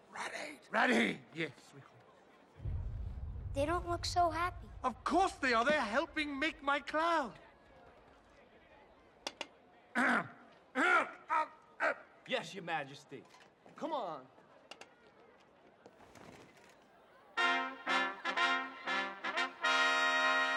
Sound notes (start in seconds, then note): 0.3 whispers; 10.0 clears throat; 17.4 fanfare